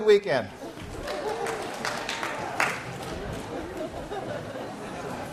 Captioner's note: scattered applause